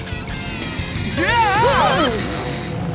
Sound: screaming

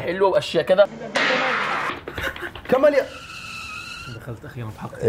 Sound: footsteps approaching rapidly

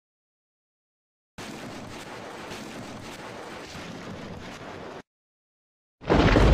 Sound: whirring; thunder

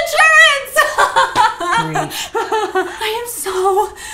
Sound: laughing

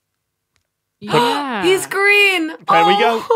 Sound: gasps

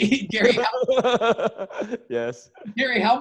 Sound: laughs

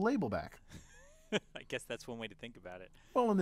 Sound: laugh

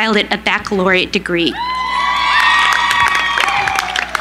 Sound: cheering

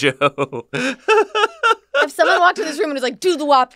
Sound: laughs

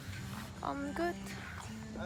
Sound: tired

